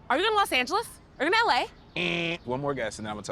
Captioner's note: imitates buzzer